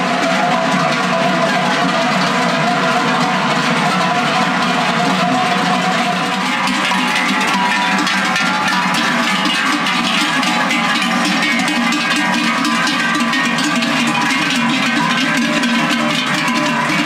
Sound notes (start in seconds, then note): 1.2 cowbells